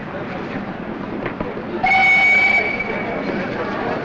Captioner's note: whistle blows